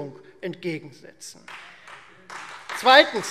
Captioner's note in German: Beifall Freie Demokraten und vereinzelt CDU